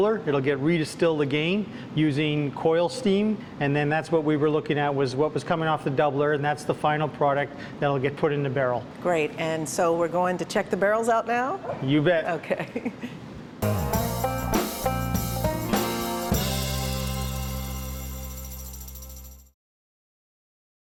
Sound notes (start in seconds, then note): 12.6 chuckles; 13.6 brisk country music